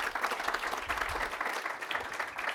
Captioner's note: applause